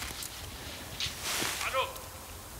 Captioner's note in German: Rascheln, Rufen